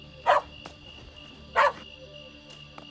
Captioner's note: wiley barks